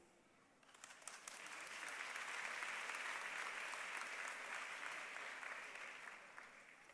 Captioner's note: applause